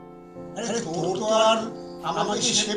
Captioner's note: echos